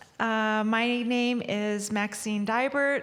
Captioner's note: speaking indigenous language